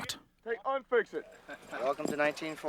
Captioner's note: voiceover